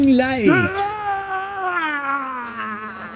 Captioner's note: screaming